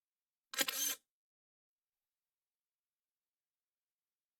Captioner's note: camera shutter